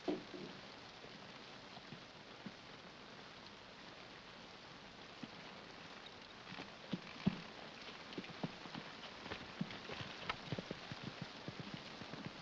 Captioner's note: rain patters